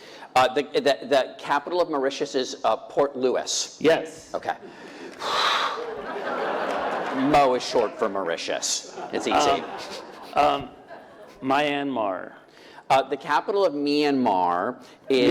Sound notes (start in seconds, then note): 4.9 sighing